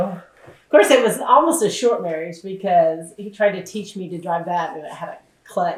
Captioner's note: laughs